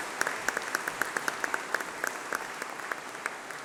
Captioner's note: applause